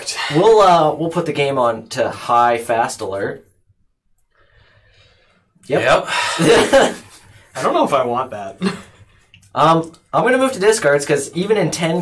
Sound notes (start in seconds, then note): 3.3 silence